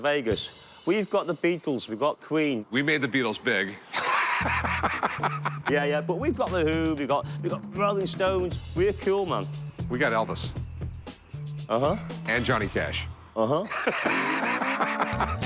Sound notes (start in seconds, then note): 3.8 laughs; 13.6 laughter